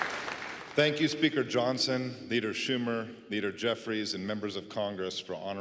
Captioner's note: applause